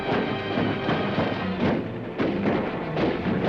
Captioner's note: dramatic music; guns firing; dramatic music